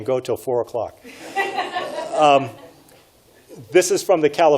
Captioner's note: audience laughs